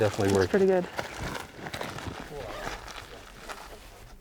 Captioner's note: feet stomping